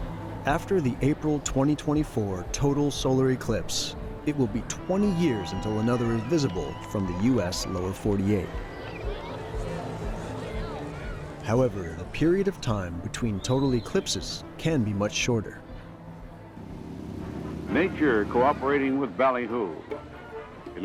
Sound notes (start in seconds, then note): 9.8 people talking in background